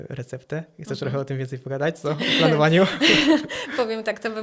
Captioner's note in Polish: śmiech